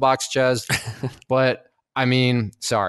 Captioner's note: laughs